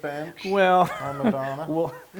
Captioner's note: laugh